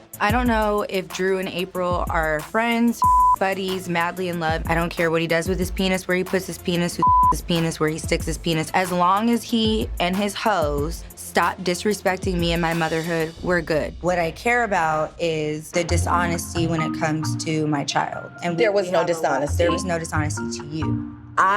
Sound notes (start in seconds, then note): 3.0 beep; 7.0 beep